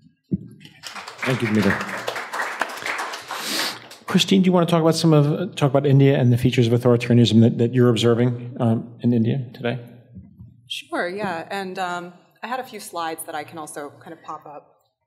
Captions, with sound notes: (audience applauds) - Thank you, Dimitar. (audience applauds) Christine, do you want to talk about some of, talk about India, and the features of authoritarianism that you're observing in India today? - Sure, yeah, and I had a few slides that I can also kind of pop up.